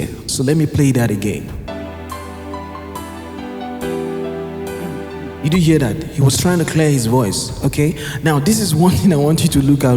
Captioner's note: clears throat